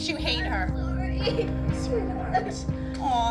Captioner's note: sobs